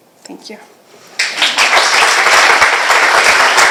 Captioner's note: applause